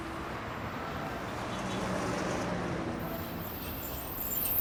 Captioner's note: traffic rumbling; bus brakes screeching